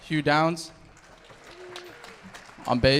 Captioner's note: audience applauding